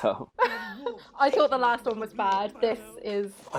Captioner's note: laughs